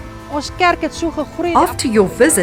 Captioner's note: speaking in foreign language